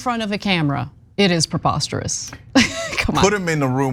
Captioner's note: laugh